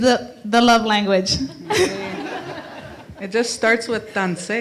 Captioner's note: laughter